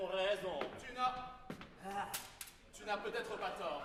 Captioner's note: GARDEFEU, also chewing candy